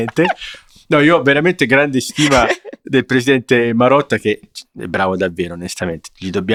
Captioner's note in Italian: risate; risate